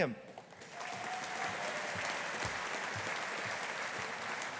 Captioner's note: audience applauding